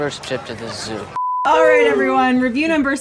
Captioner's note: beep